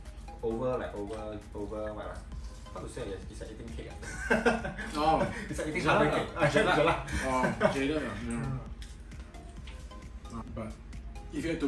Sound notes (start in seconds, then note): 4.1 laughs